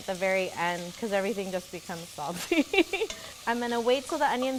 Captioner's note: laughs